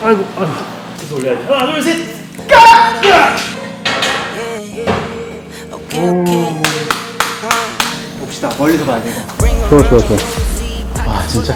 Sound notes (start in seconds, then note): 6.6 clap clap clap